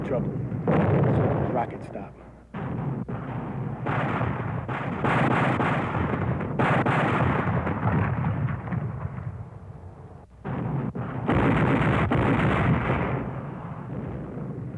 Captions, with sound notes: We're in trouble, as soon as those rockets stop. (gunfire pops) (explosions booming)